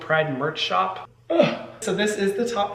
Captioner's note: Hyram groaning